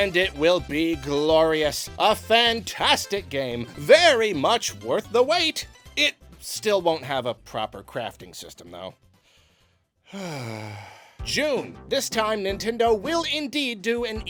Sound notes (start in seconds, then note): 10.0 sigh